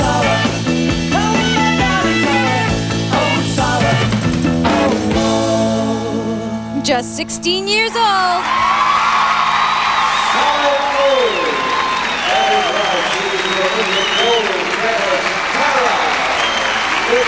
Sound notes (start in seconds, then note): 11.8 cheering, applause